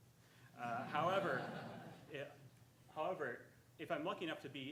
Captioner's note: audience laughing